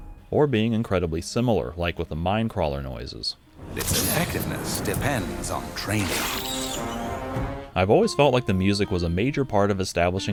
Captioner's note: like with the minecrawler noises